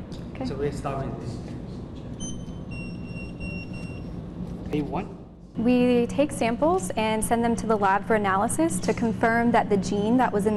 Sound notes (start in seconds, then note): 2.2 scanners beeping